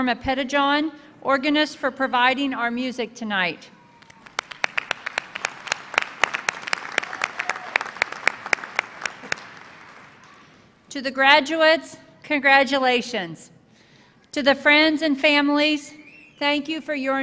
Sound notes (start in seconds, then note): 7.0 applause